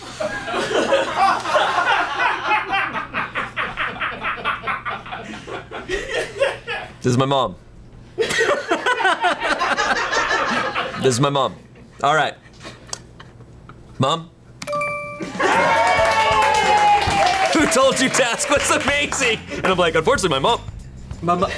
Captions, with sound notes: (colleagues laughing) This is my mom. (colleagues laughing) This is my mom. All right, mom. (colleagues applauding) Who told you "Task" was amazing? And I'm like, "Unfortunately my mom."